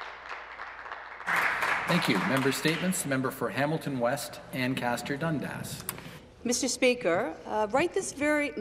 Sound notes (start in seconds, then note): 3.6 applause